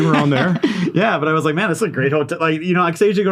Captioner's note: laughs